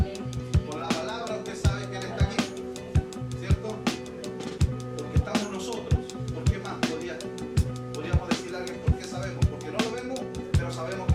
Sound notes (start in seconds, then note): 2.9 people continue talking; 2.9 upbeat music continues